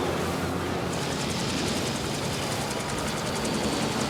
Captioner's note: blades whirring